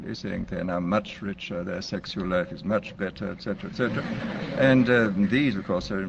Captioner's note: laughter